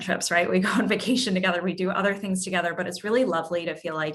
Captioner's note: laugh